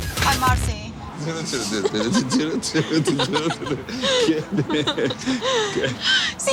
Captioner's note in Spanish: Risas